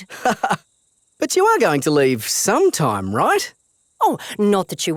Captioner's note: laughs